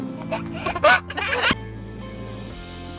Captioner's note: laughing; calm music